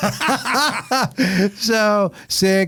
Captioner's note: laughing